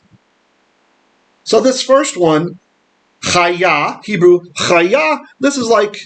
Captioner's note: Hebrew